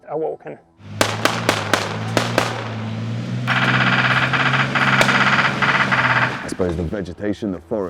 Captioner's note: sounds of gunfire